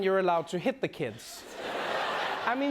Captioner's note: laughter